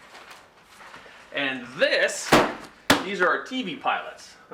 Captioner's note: thud